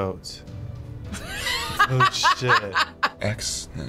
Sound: wheezy laughter

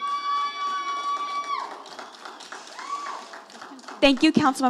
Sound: audience applauding

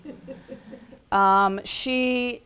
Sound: laughter

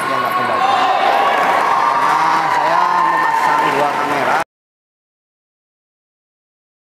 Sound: applause

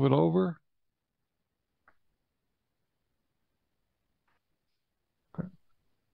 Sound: silence

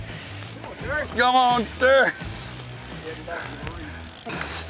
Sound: reeling noises

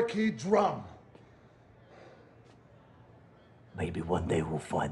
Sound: silence

